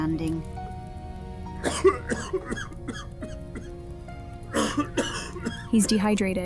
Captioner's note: old man coughing